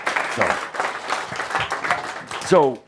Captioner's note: audience applause